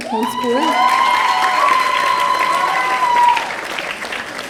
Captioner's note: audience cheering